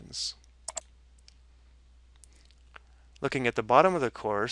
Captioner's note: mouse clicking